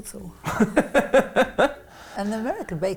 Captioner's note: laughs